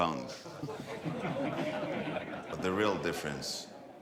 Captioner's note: people laughing